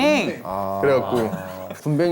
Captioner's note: booing